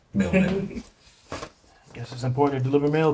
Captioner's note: friend laughs